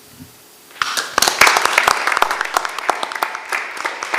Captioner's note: members clapping